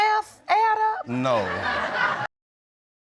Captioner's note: audience laughs